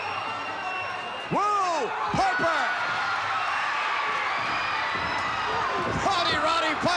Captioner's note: audience cheering